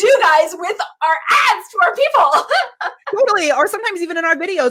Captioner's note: laughs